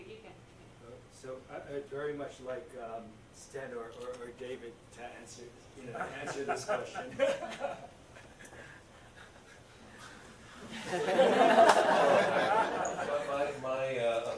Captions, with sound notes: How much is their engagement, it's a little bit hard to tell from the outside. (presenter chuckles) And I think this goes along with what Gregg was saying, to what degree is there-